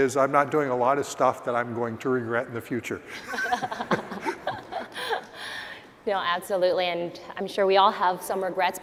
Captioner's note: laughs